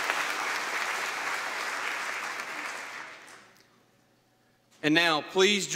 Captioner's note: applause